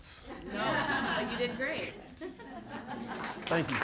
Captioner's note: audience laughing